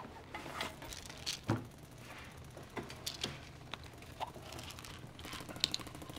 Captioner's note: pills rattling over rattling gunfire from video game